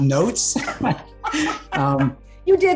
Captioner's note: laughing